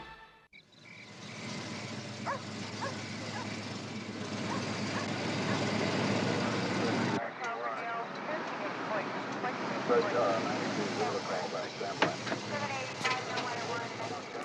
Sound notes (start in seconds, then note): 0.5 crickets chirp; 2.0 dog barks; 7.0 radio voices chatter